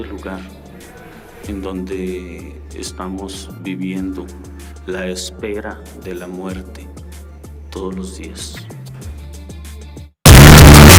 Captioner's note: speaking foreign language